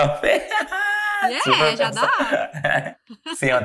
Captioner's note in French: rires